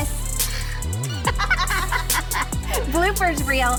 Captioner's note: laughing